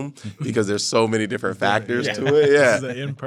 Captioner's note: laughs